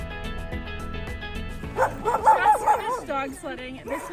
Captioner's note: barking